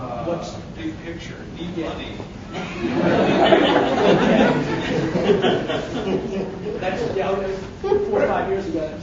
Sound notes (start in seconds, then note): 2.5 audience laughing